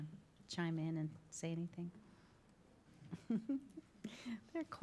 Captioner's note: laughs